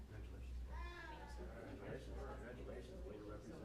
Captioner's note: chatter